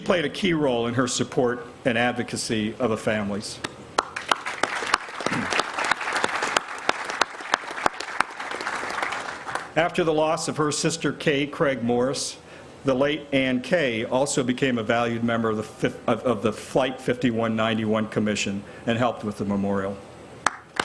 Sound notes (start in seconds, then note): 7.1 applause